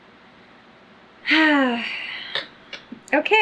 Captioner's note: sighs